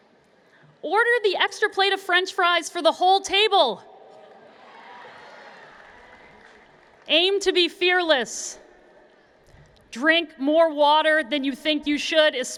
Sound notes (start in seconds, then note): 4.1 cheers and Applause